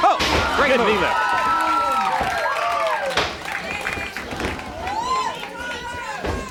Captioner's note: audience cheering and clapping